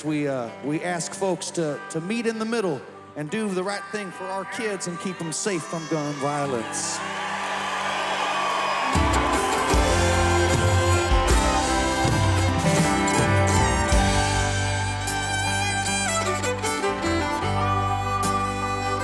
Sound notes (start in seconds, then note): 7.1 spectators cheering; 9.1 rousing country music